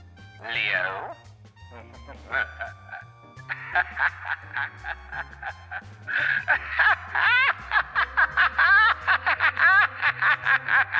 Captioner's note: demonic voice